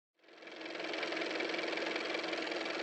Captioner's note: car motor